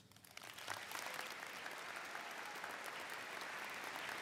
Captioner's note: audience applauds